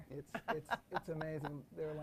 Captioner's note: laughs